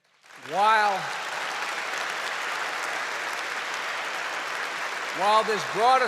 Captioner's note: applause